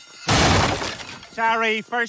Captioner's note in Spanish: el techo se derrumba